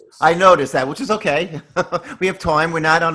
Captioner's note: laughs